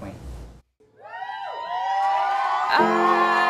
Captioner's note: cheering